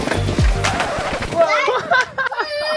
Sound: record scratch; dad laughs; screams

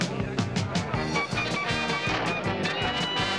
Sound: people chattering

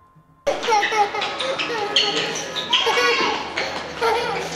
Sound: laughing

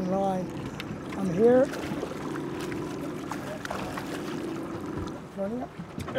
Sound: fish splashing

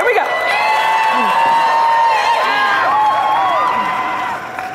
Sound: people cheering

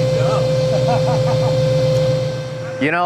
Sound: laughing

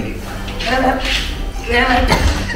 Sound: laughs

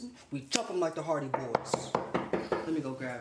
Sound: door knocking

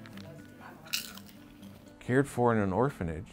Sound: crunching popcorn

